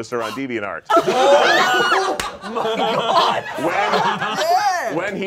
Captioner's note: all laughing